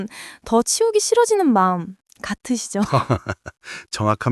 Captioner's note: laughs